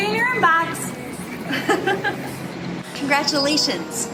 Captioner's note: woman laughing